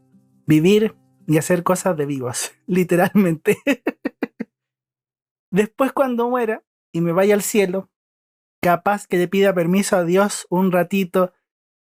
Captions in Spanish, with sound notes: vivir, y hacer cosas de vivos literalmente (risas) después cuando muera, y me vaya al Cielo capaz que le pida permiso a Dios, un ratito